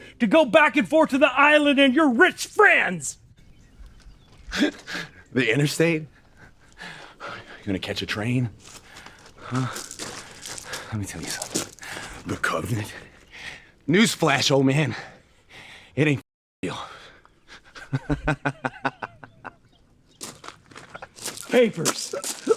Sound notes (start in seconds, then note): 17.6 man laughs